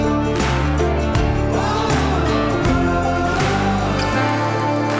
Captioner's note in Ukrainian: оплески